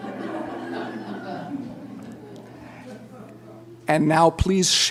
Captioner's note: laughter